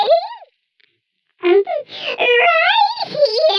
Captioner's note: Glups